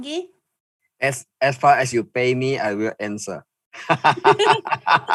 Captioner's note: laughing